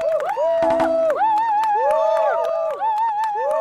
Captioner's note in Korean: 자동박수